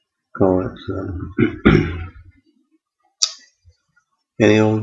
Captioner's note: achem